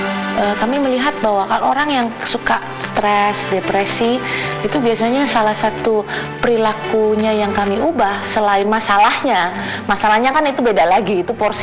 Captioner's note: non-english speech